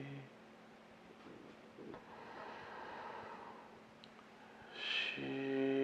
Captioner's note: inhaling